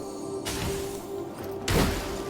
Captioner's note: crystal shattering